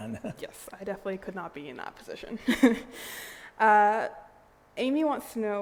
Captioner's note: laughs